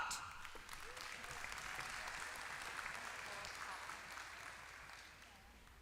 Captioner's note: applause